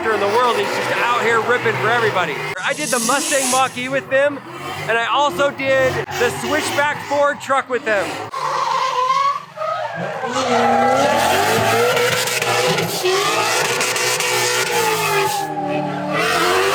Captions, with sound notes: He's just out here ripping for everybody. I did the Mustang Mach E with him, and I also did the Switchback Ford truck with him. (tires screeching) (engine revving)